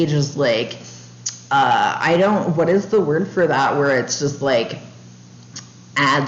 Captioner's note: tongue click